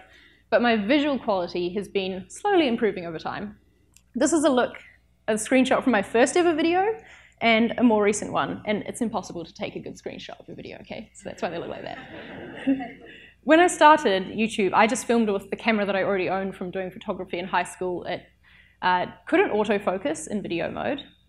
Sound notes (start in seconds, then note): 11.6 audience laughs